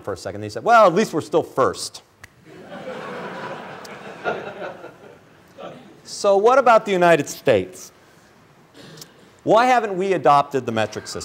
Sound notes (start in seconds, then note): 5.5 laughter